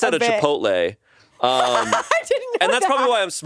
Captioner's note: laughs